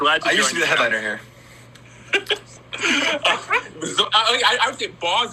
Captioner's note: laughs